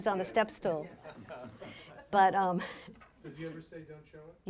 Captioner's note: laughing